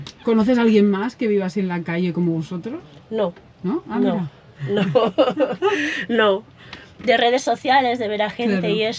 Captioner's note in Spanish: risas